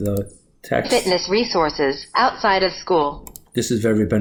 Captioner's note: computer Voice